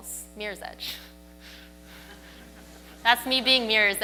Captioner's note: audience laughs